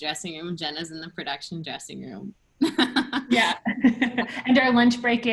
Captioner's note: laughter